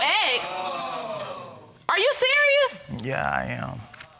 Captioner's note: audience exclaims